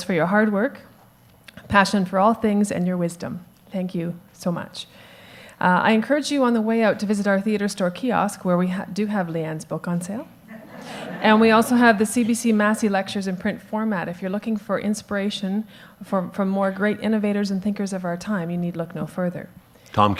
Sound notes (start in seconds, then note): 10.5 audience laughs